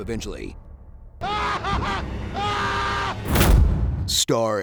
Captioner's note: screaming in agony